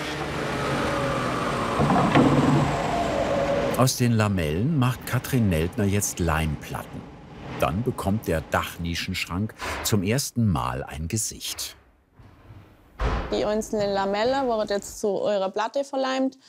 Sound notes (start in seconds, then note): 1.6 machine shuts down